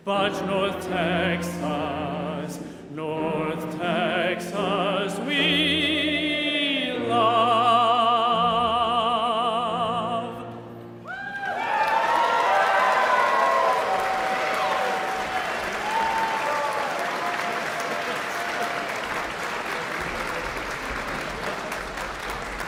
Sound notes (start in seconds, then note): 11.3 audience cheering; 11.3 audience clapping